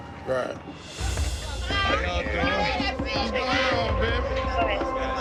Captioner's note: overlapping chatter